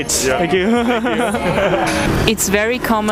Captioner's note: giggling